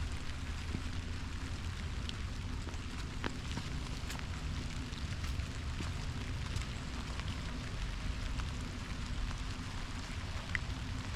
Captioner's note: gentle rain on forest floor; squirrel foraging in dry autumn leaves; distant bird calls